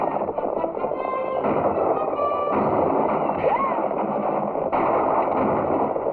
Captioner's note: gunshots